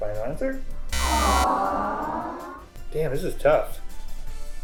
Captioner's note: buzzer